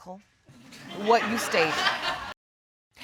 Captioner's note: audience laugh